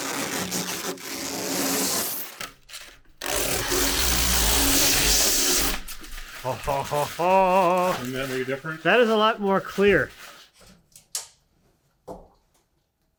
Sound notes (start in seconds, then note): 0.2 plastic squeaking; 6.4 speaker exclaiming